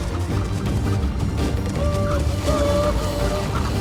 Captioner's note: tribal calls